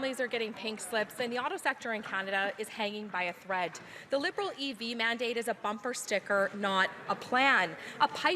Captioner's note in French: voix de l'interprète